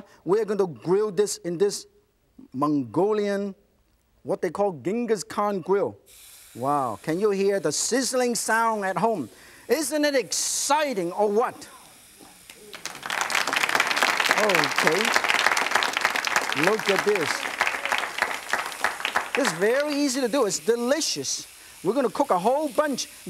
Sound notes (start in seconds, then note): 6.1 grill sizzles; 12.4 audience applauds